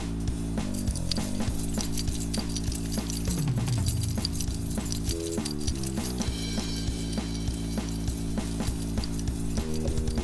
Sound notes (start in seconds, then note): 0.5 keys jingling